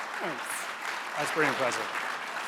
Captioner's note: audience applauding